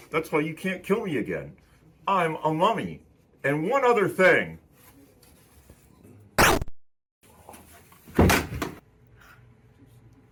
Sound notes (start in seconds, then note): 6.4 gun fires